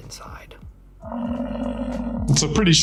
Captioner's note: buffalo grumbling